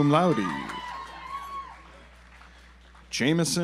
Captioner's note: audience applauds